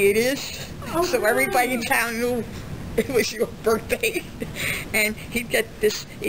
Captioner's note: laughs